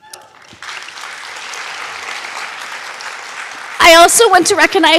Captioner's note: audience applauding